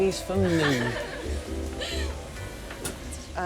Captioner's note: flight attendants giggle